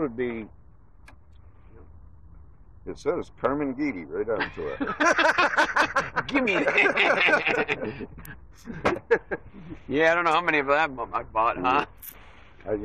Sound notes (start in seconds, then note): 4.3 all laughing